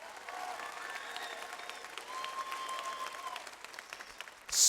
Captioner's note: audience applauds